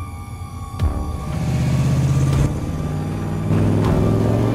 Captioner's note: engine revving